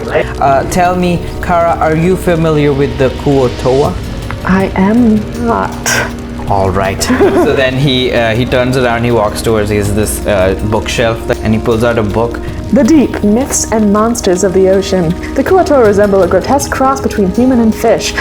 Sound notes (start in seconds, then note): 0.0 laughs; 7.0 laughter